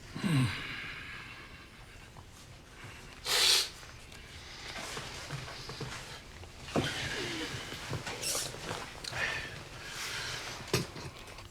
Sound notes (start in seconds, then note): 0.1 sighs; 3.2 sniffles